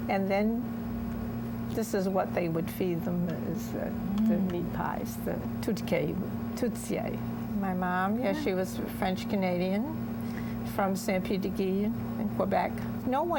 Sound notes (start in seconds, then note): 5.8 speaking french